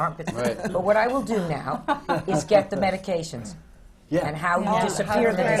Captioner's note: laughter from the panel